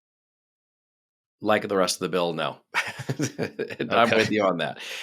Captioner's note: chuckles